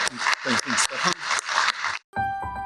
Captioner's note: applause